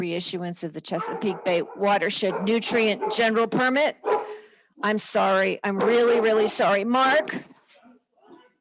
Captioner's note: dog is barking in the background